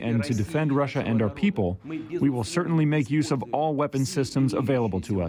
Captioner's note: speaking foreign language